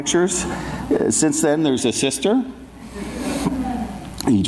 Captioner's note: audience laughs